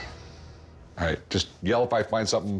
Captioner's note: sighs